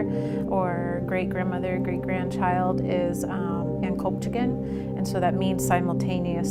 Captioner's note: non-english